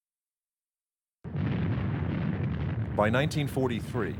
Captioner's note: guns booming